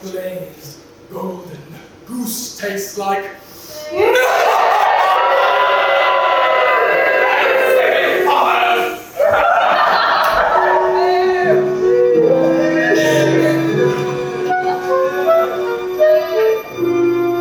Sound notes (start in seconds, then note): 5.2 audience boos